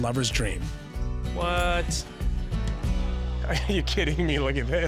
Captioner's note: laughing